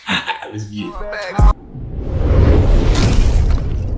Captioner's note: laughs